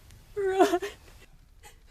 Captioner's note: sobs